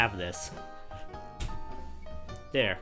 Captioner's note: smacks against the wall